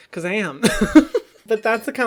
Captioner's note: laughs